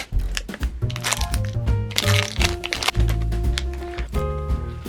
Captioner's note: plastic crinkling